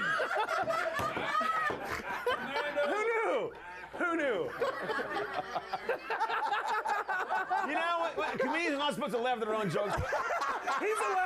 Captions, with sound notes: - YOU KNOW, THEY DON'T SELL UNDERWEAR IN THE MALL? [Laughter] WHO KNEW? WHO KNEW? - YOU KNOW, COMEDIANS ARE NOT SUPPOSED TO LAUGH AT THEIR OWN JOKES. [Laughter]